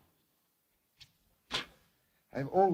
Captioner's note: spits